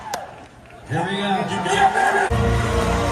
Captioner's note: cheering